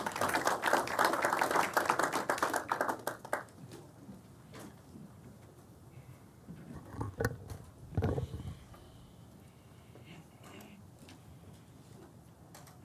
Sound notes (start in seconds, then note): 2.0 applause